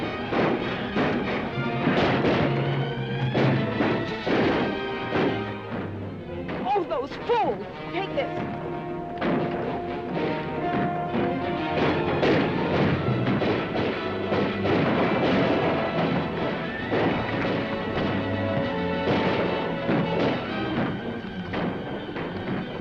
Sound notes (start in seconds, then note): 0.2 dramatic music; 3.0 guns firing; 9.2 dramatic music; 11.5 guns firing; 14.1 dramatic music; 16.8 guns firing; 19.4 dramatic music